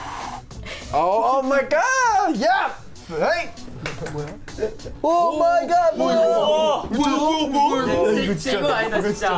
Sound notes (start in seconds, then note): 0.0 exhales; 3.8 laughs; 4.2 speaks in Korean; 6.0 speaking in Korean; 7.2 laughs